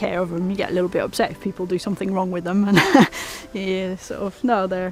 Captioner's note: laughs